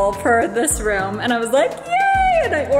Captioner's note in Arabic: هتافات